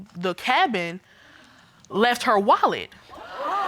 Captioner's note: audience gasp